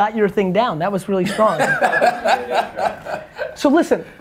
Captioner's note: Cha laughs